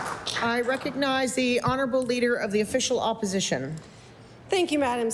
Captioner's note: applause